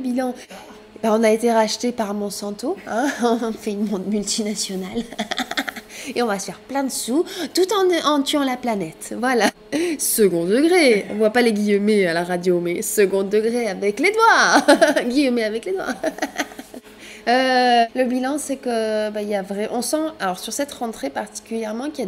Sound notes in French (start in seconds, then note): 5.0 rires; 9.0 rires; 15.8 rires